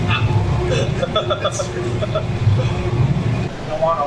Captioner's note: laughing